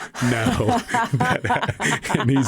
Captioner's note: laughter